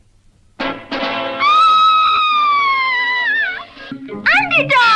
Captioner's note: Sweet Polly Purebred Screams